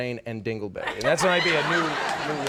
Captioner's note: audience laughs